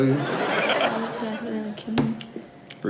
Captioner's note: audience laughs